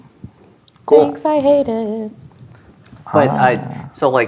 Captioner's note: laughs; in a sing-song voice